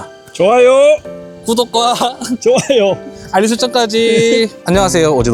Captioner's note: laughs